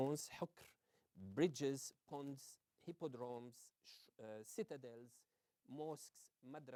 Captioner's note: non-english